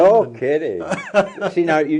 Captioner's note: chuckles